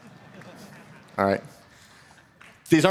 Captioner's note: laughter